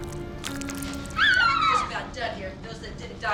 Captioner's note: girl shrieks